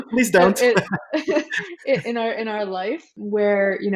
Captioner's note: laughing; laughs